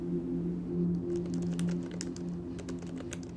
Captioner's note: keyboard clicks